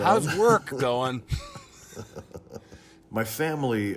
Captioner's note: laughing